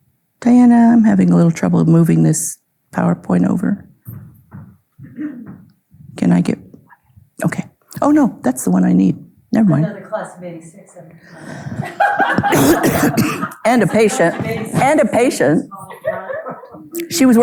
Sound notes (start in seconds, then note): 3.9 footsteps thudding; 11.5 coughing; 11.5 audience laughing; 15.8 audience chuckling